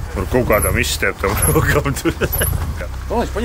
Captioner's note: laughs